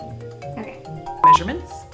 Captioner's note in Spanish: bip